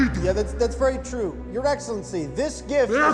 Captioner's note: stammers